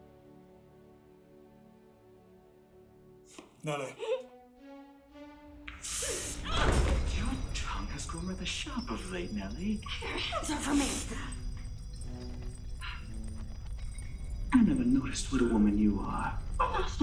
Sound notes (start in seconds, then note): 3.9 crying; 5.7 groaning